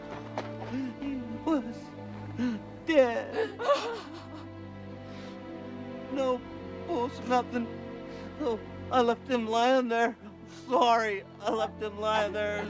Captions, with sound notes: [sobbing] HE WAS DEAD! [crying] NO PULSE, NOTHIN'. SO, I LEFT HIM LYIN' THERE, I'M SORRY. I LEFT HIM LYIN' THERE.